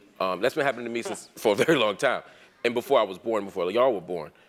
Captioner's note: laugh